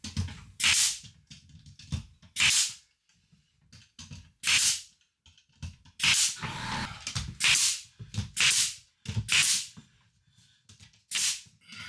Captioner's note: saw buzzing